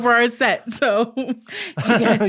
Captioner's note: chuckles